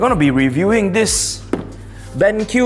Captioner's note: thud